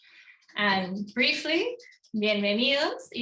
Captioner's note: speaking in foreign language